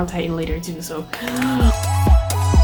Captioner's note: claps